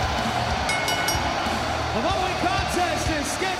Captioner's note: bell ringing